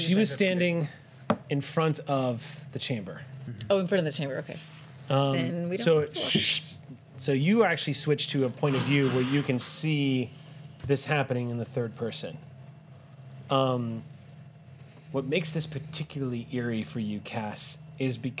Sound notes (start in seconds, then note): none